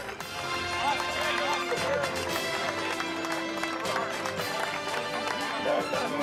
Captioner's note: cheers